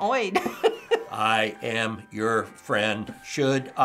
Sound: chuckles; robotically

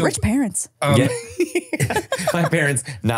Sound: laughing

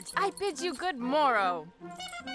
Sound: squeaking

